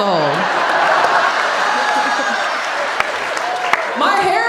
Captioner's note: audience laughing